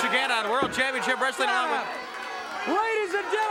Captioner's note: tennis rack thudding